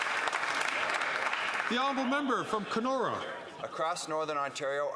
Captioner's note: some Applause